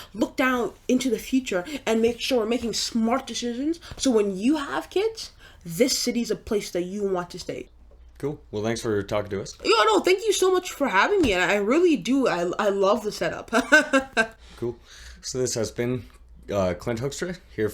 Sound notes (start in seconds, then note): 13.5 laughs